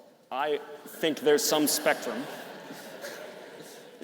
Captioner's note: audience laughing